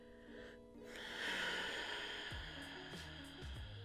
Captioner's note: exhaling